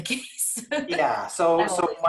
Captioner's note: laughing